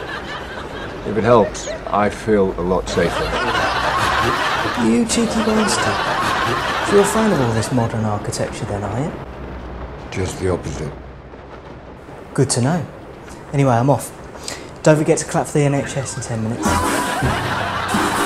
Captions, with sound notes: - If it helps, I feel a lot safer. (audience laughs) - You cheeky monster. (audience laughs) So you're a fan of all of this modern architecture, then, are ya? - Just the opposite. - Good to know. Anyway, I'm off. Don't forget to clap for the NHS in 10 minutes. (audience laughs)